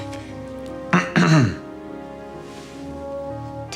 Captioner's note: clears throat